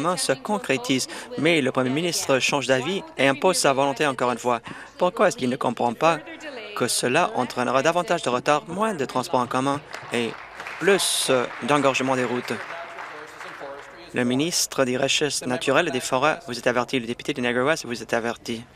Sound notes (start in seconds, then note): 14.3 applause